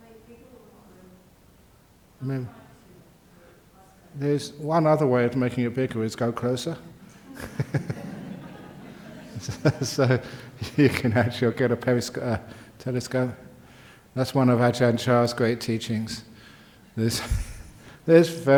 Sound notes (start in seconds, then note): 10.3 laughter